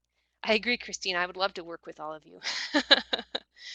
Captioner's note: laughs